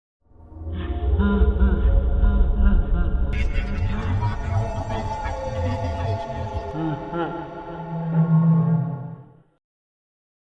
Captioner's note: Creepy ambiance, Freddy laughing, garbled speech